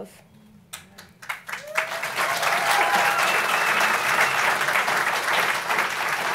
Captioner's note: clapping